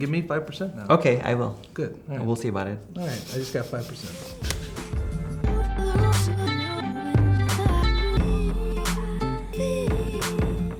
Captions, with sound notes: Give me five percent now. - Okay, I will. - Good. - And we'll see about it. - Alright, I just got five percent. (laughing) (upbeat music)